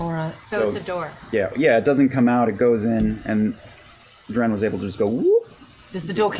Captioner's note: whoop